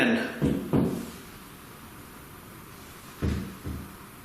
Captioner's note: thuds